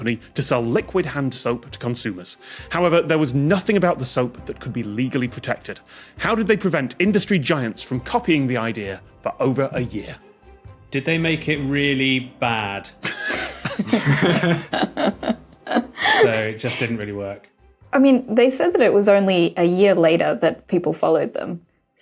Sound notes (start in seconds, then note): 13.0 others giggling